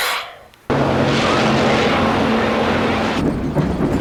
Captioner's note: traffic noise